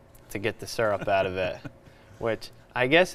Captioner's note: chuckling